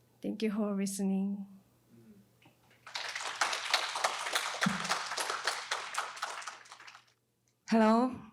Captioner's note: applause